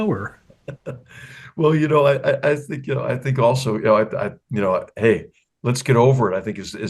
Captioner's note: laugh